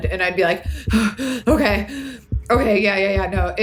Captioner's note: breathes heavily